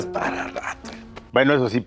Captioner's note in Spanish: risas